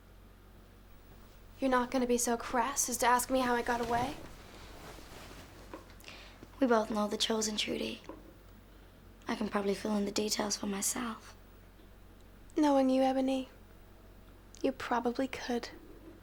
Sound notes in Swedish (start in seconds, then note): none